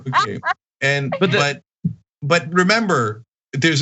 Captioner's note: laugh